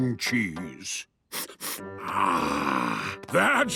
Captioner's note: sniffs